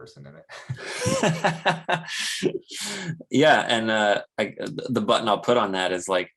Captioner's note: chuckles; laughs